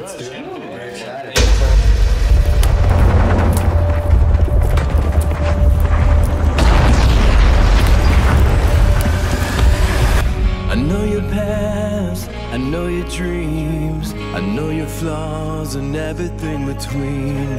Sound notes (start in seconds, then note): 0.0 group chatter; 2.1 gun shots